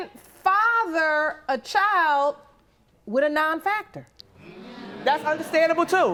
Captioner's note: audience murmurs